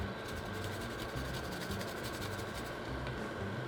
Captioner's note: grating